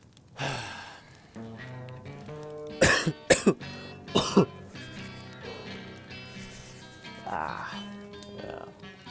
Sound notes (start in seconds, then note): 2.7 coughing